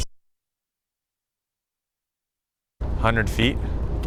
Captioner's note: audio pops